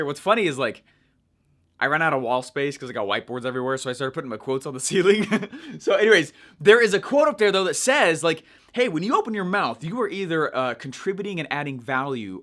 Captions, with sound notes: What's funny is like I run out of wall space 'cause I got whiteboards everywhere, so I started putting my quotes on the ceiling. (laughing) So anyways, there is a quote up there though that says like, "Hey, when you open your mouth, "you are either contributing and adding value